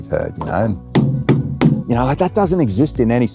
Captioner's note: foot patting